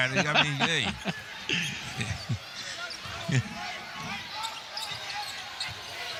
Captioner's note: laughter